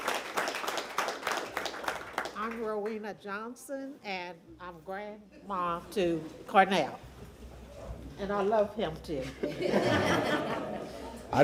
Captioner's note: applause